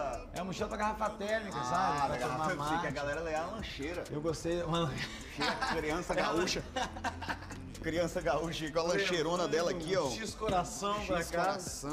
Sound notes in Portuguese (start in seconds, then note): 4.8 risada